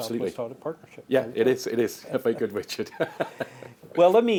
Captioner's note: laughs